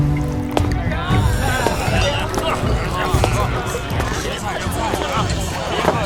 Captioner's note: people in the tavern chattering